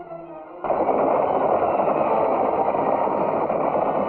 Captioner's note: horses galloping